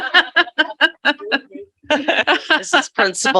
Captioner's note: laughs